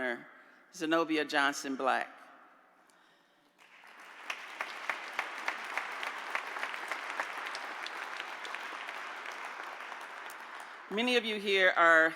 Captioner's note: applause